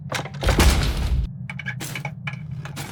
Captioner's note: thud!; parts squeaking, snapping, clattering